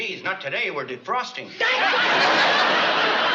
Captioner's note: yelling